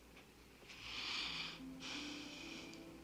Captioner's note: Annie sighs